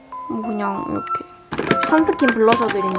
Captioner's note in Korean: 달그락